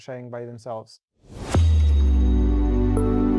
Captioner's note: graphic whooshing; ambient music